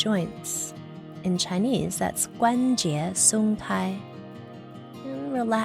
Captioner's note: speaks in foreign language